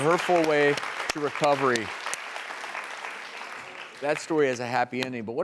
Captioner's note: audience clapping